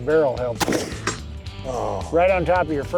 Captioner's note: gun fires, hits steel target